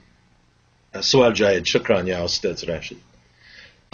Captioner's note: speaking Arabic